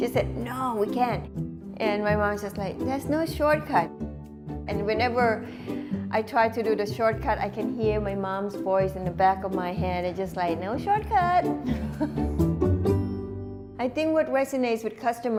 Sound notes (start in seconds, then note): 11.7 laughs